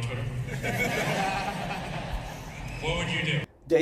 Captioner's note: audience laughs